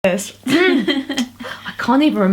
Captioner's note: coughs; laughs